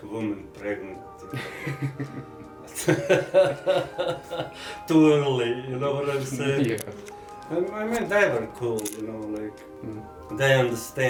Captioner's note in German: Lacht